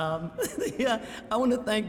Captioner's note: chuckling